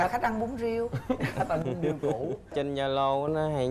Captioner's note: laughing